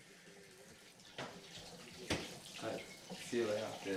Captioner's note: water trickling